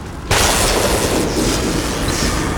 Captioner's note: lightning